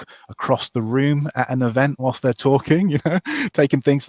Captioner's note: chuckles